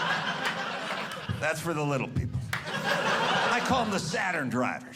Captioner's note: audience laughing